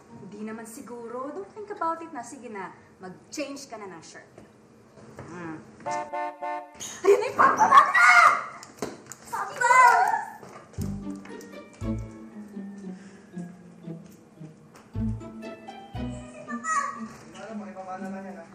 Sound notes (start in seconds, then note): 5.8 car horn honking; 10.3 shrieks; 12.7 sighs